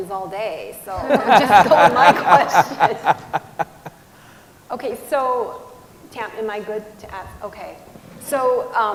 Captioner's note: humming " Theme Song"